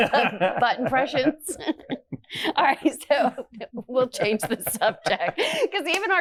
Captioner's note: laughs